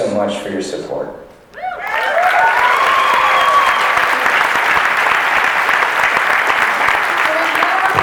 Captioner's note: cheering and clapping